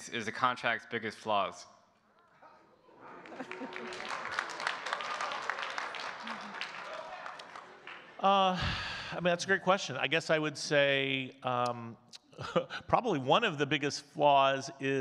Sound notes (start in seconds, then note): 3.0 audience cheering and clapping; 8.3 sighs; 12.1 chuckles